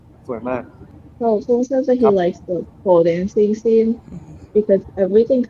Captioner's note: in Thai